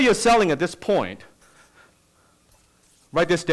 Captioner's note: scribbling sounds